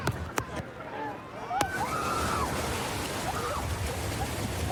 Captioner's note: excited screaming